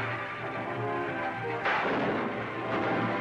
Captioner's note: gunshots